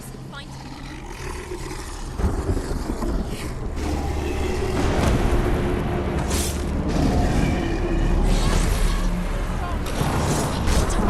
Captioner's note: indistinct chatter; indistinct chatter